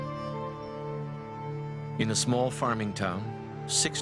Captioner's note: voiceover